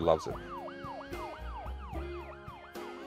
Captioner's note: siren